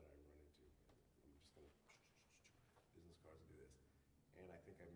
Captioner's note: ch-ch-ch-ch-ch